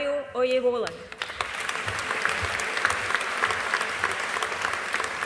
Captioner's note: audience applauding